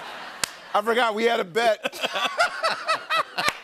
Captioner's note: laughter